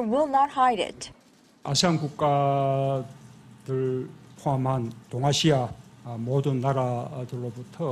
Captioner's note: Korean